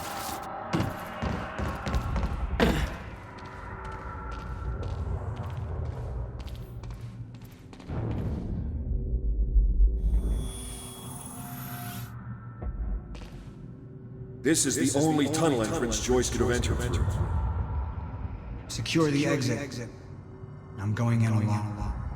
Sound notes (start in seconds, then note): 14.8 as an echo from the past